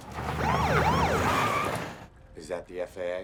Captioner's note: siren